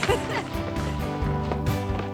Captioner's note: laughing